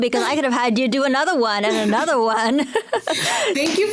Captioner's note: laughs